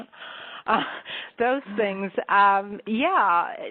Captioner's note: chuckles